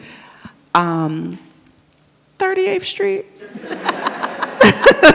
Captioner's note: all laugh